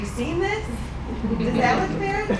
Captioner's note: laughing